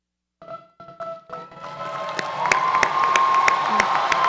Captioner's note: audience applauds